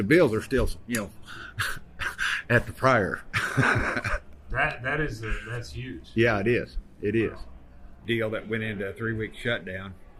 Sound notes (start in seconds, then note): 3.2 laughing